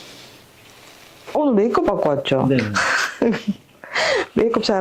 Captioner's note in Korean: 웃음